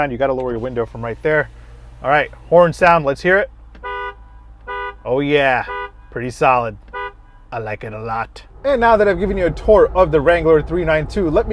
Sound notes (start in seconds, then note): 4.0 car hooting